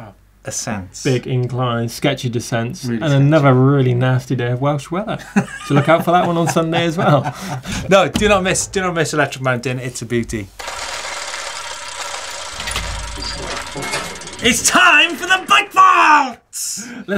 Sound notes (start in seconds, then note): 5.3 laughs